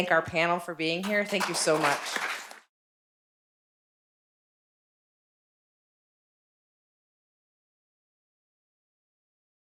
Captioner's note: applause